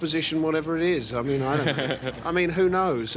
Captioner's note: chuckles